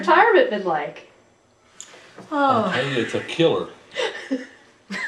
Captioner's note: laughter